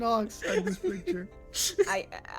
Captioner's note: laughs